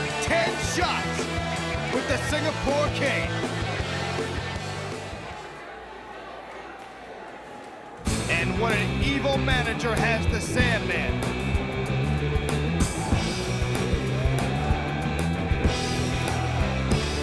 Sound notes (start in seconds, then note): 8.5 crowd chatter